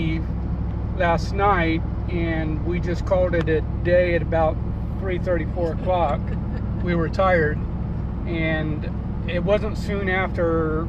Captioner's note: laughs